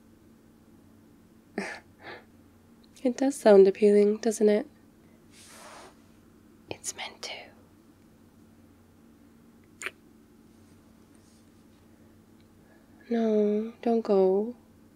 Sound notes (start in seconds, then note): 6.5 whispers; 9.7 kiss